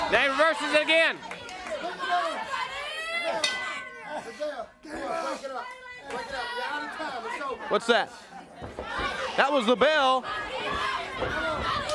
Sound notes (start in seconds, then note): 4.0 crowd chatter; 4.9 bell ringing; 11.4 crowd chatter